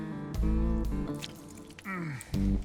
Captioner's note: squelching